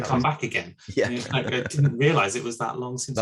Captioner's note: laughs